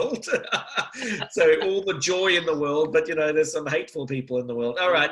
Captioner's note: laughs